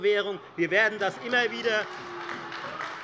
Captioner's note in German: Beifall Freie Demokraten und AfD - Lachen BÜNDNIS 90/DIE GRÜNEN